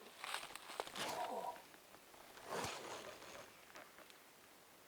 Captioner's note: whispered